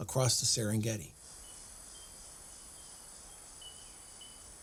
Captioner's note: insects buzzing